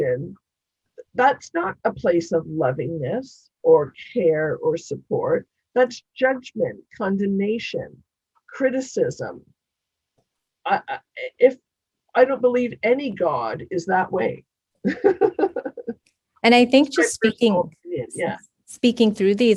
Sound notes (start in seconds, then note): 14.8 laughing